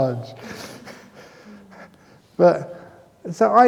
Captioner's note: laughs